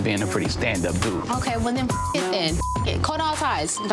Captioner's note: beep